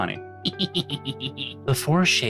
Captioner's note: gremlin laugh